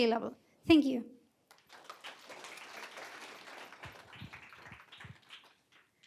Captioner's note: applause